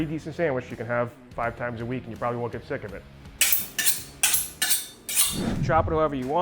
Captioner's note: knife sharpening